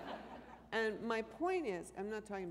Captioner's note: laughter